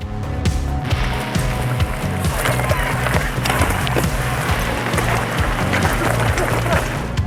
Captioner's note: upbeat rock music; gravel crunching